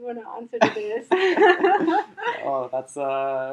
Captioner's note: all laughing